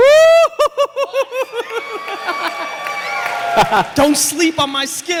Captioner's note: cheers and applause